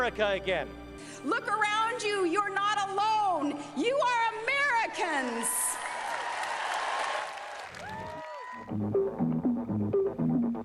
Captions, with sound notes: is a day that we can start the heart of America again. Look around you, you're not alone! You are Americans! [cheering]